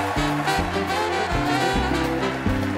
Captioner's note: applause